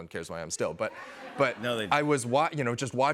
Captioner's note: light laughter